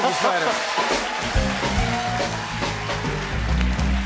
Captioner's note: cheers and applause